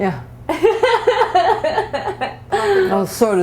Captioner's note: laughter